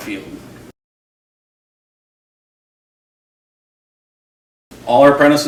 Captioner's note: silence